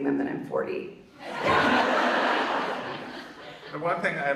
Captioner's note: audience laughs